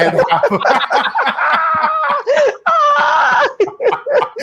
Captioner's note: group laughing loudly